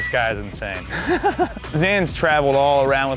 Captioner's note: laughing